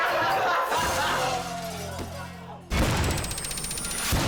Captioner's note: people laughing; glass shatters; countdown squeals